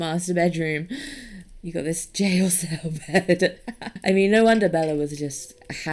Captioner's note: laughs